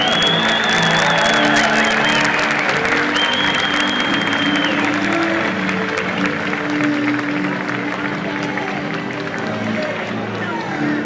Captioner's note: crowd conversing and cheering